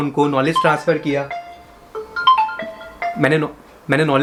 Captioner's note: phone rings